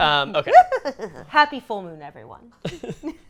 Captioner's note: cackles